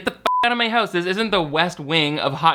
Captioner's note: beep